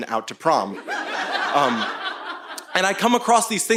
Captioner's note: audience laughing